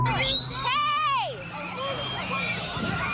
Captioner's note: children screaming